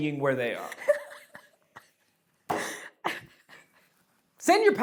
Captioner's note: laughs